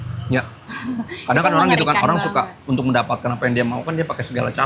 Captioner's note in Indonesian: tertawa